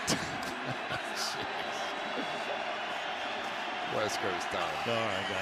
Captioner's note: laughs